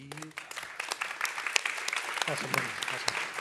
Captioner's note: applause